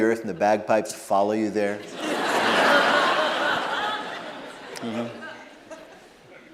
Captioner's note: laughter